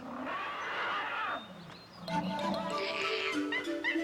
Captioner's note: elephant trumpeting